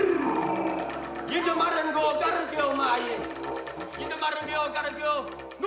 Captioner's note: didgeridoo plays; speaks in language